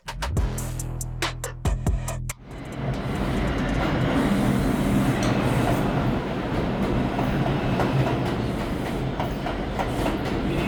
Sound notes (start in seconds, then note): 2.4 train approaching